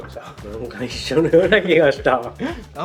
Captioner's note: laughs